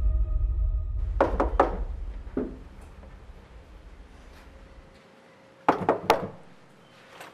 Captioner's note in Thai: เสียงเคาะประตู